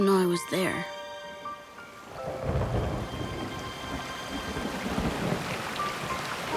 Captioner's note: water pouring, thunder rumbling